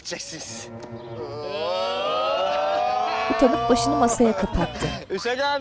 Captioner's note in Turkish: Hep bir ağızdan